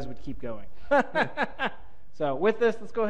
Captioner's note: panelist laughs